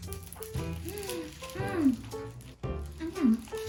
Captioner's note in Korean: 으으음~!